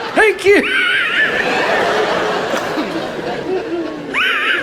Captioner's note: laughs & audience laughs; laughs